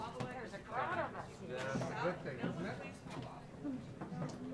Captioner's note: continued chatter